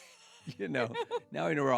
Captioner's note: laughing